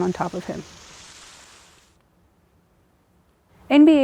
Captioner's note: water splashing